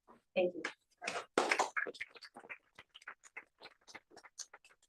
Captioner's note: applause